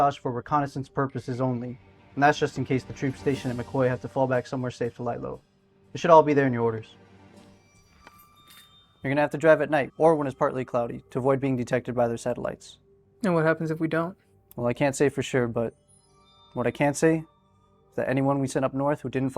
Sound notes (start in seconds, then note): 7.9 keys jingling